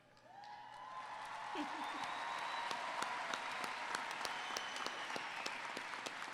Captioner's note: applause